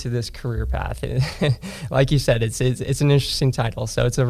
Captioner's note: laughs